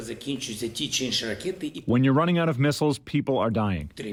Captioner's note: through translator